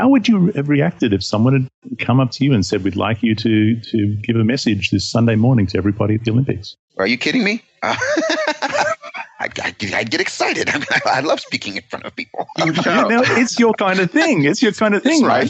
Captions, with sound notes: would you have reacted if someone had come up to you and said, “We’d like you to give a message this Sunday morning to everybody at the Olympics?” Are you kidding me? [laughing] I’d get excited. I love speaking in front of people. It’s your kind of thing, right?